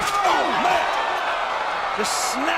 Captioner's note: commentators exclaim